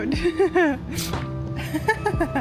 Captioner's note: laughs